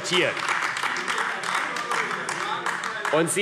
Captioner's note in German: Beifall AfD